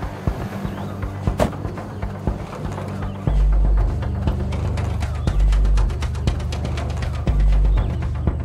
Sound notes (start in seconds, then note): 1.1 trunk thumps